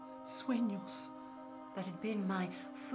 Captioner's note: speaking in foreign language